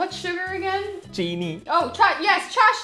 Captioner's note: speaking in Hindi